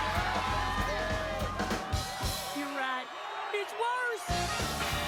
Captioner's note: shouting, cheering